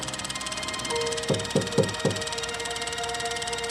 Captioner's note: knock on door